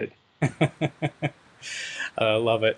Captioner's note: laughs